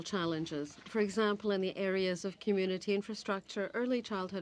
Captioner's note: speaking French